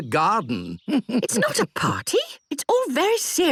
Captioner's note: chuckles